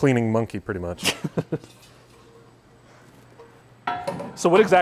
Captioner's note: laughing